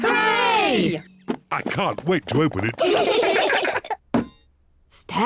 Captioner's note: all giggle